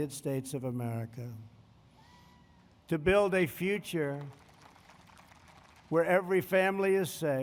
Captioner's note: applause